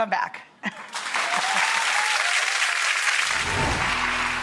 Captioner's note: audience applauds